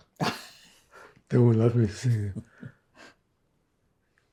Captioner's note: laughing; laughing